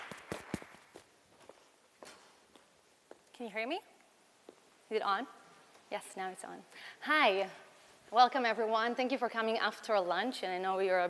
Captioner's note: applause